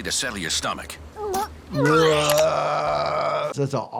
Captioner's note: Ben retches